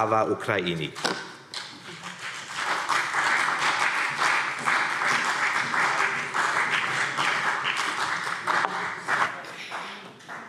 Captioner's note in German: Beifall CDU und BÜNDNIS 90/DIE GRÜNEN